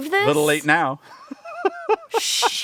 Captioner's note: laughing